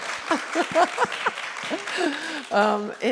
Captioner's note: laughs; applause